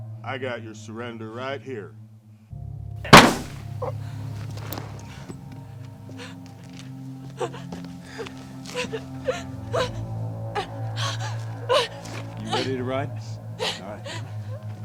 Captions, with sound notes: - I got your surrender right here. (gun fires) (groans) (Nellie sobs) - You ready to ride? All right, come on.